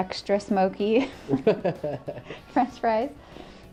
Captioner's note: laughter